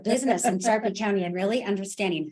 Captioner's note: laughs